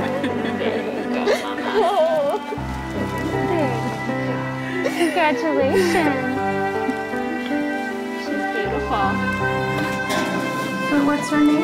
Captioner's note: baby crying